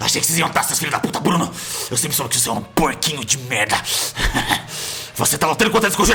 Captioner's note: laugh